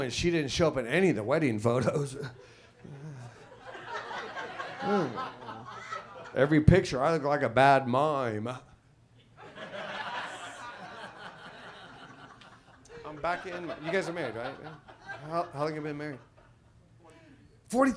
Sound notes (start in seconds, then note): 3.0 audience laughs; 9.4 audience laughs